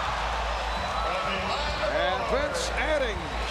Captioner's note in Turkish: coşkulu tezahürat